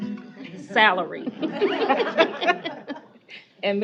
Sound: laughter

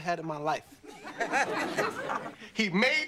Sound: studio audience laughing

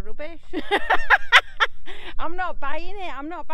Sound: laughing

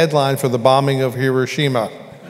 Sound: laughter

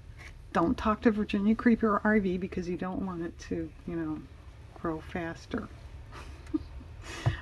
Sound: laughs

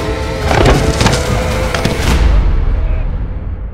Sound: falls

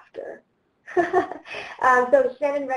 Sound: laughs

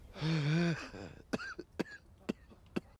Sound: coughs

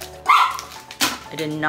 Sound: dog barks

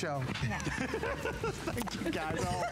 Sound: laughter

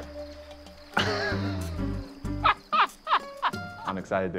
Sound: laughing

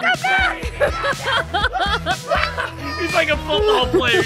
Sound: laughing

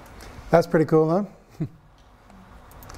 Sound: chuckles

